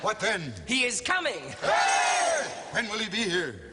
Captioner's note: cheers